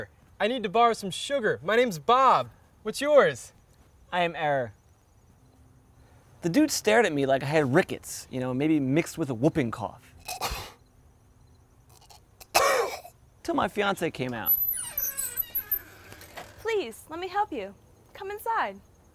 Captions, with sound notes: I need to borrow some sugar. My name's Bob. What's yours? I am Error. The dude stared at me like I had rickets. You know, maybe mixed with a whooping cough. *Disgusted Cough* Til my fiancé came out. Please, let me help you. Come inside.